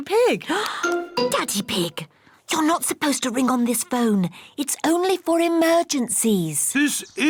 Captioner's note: gasps